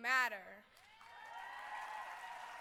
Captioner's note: cheering